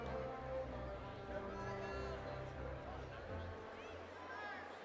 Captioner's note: audience chattering